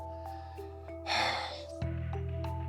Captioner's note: sighs